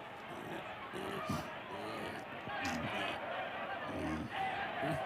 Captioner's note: giggling